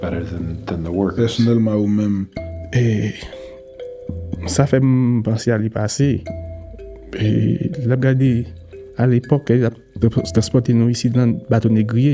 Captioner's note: speaking Creole